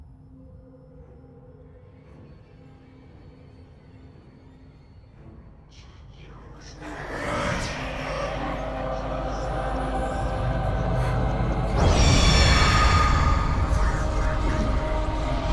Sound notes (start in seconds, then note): 0.3 eerie music; 0.3 whispering demonically; 6.9 eerily groaning; 11.8 demonically screeching